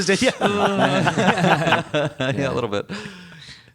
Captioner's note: laughter